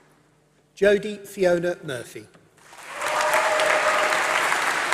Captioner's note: applause